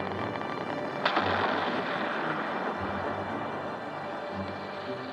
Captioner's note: explosion